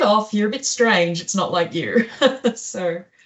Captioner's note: laughs